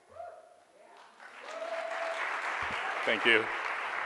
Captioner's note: audience cheers and clapping